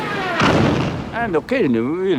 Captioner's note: gunshot fire